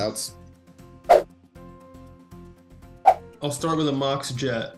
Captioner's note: whooshing